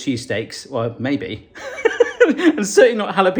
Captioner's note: laughing